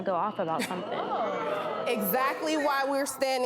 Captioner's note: crowd Gasping